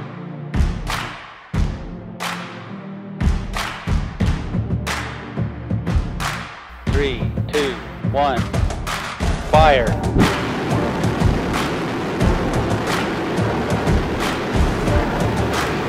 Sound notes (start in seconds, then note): 9.9 rocket blastoff